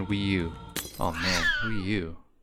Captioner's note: glass shattering and cat yowling